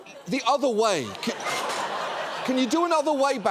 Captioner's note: studio audience laughing